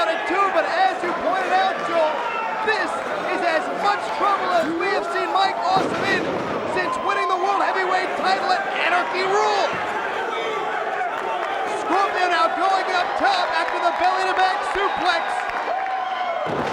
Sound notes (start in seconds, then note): 10.2 crowd chattering; 16.5 Scorpio thuds